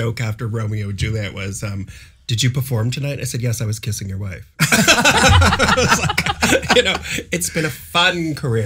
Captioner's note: laughter